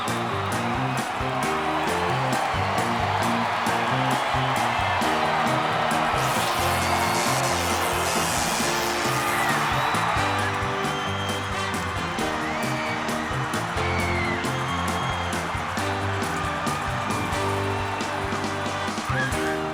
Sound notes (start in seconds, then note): 3.1 crowd cheers; 6.1 electricity crackles; 13.2 entrance music continues